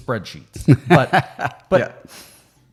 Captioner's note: chuckling